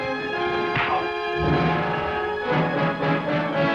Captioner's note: fist thuds